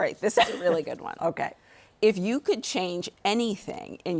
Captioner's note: laughs